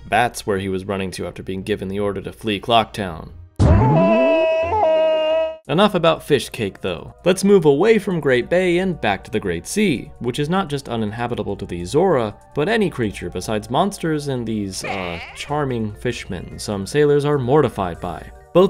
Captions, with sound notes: That’s where he was running to after being given the order to flee Clock Town. *Goron Link screaming, bouncing sound effect* Enough about fish cake though, let’s move away from Great Bay and back to the Great Sea, which is not just uninhabitable to the Zora, but any creature besides monsters and these uh…charming Fishmen some sailors are mortified by.